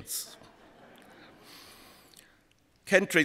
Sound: laughter

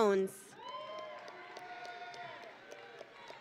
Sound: audience and graduates cheering

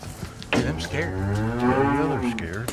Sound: cow mooing

